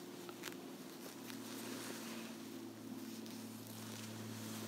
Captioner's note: material rustling